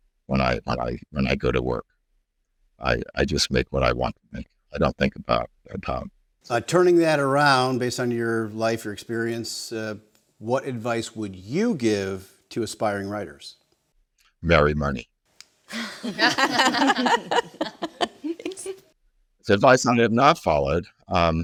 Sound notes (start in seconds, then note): 15.7 all laughs